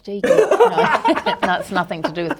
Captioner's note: both laugh